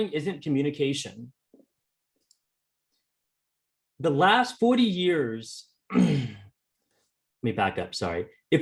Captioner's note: clearing throat